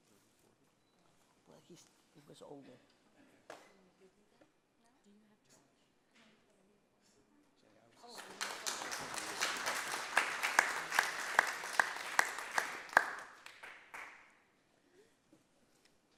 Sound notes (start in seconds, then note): 8.0 group applauds